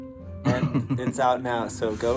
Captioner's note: chuckles